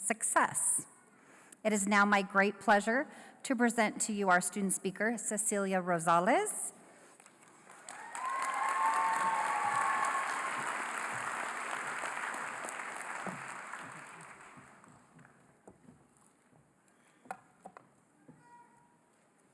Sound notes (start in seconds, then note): 7.2 applause